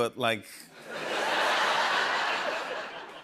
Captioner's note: laughter